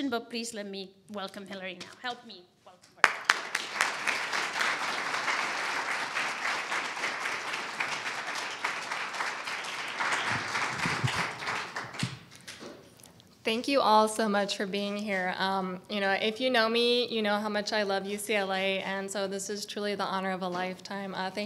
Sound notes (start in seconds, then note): 4.5 audience applauding